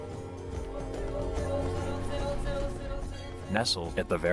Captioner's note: trader speaking in foreign language